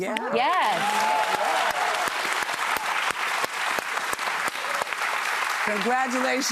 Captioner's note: applause